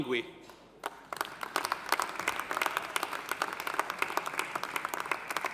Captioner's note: audience applauding